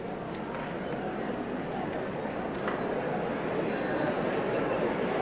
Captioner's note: audience murmuring